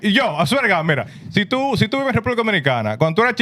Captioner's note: speaking In Foreign Language